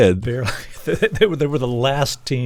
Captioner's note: laughter